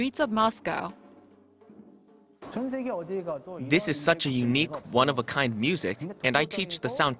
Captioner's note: Korean